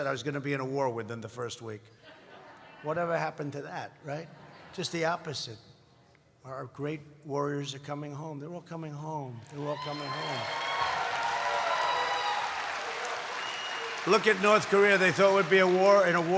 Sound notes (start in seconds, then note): 4.1 laughter; 9.4 applause